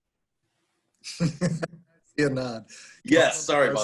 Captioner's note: laughing